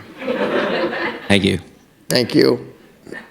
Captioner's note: laughter